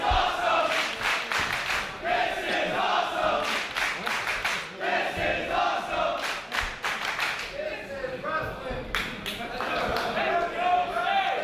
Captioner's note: applause